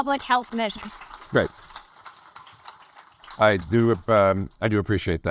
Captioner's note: audience applaud